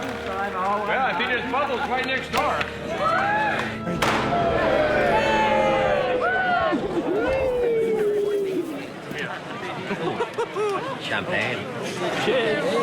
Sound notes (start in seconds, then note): 4.1 crowd cheering; 9.2 chattering